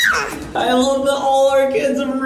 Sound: squeals

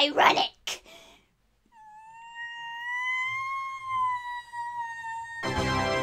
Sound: wailing

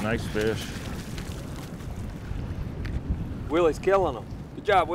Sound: fish splashing

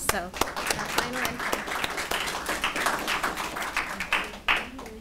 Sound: audience clapping

